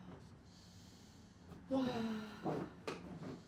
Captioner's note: sighing